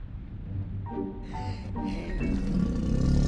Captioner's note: sighs; volcano growls